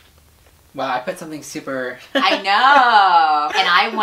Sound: laughs

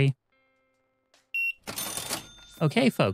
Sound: beeping

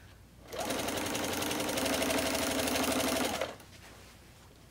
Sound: machine whirs

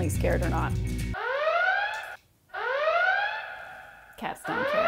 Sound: Star Trek TNG Red Alert siren plays

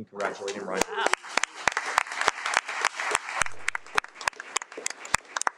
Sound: audience clapping

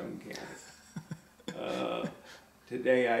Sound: laughs

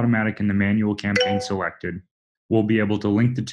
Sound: software chimes

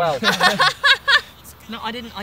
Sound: cackles

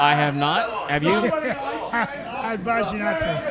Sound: laughs

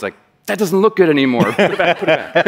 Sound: laughter

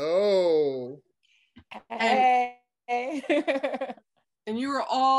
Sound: chuckles

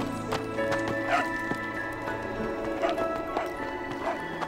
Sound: dog barking

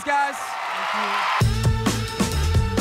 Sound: audience cheers; upbeat music

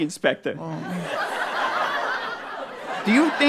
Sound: moans

